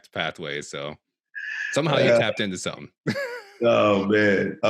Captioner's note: chuckles